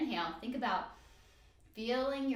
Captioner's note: inhale